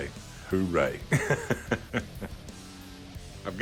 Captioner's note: laughs